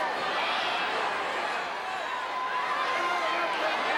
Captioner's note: crowd cheering